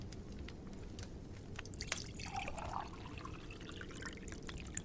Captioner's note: fire crackling; liquid sloshing